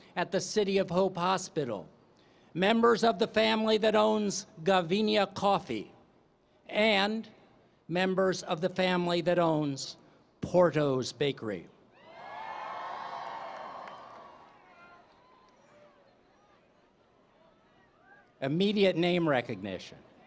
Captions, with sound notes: at the City of Hope Hospital, members of the family that owns Gavina coffee. And members of the family that owns Porto's Bakery. [ Cheering ] Immediate name recognition.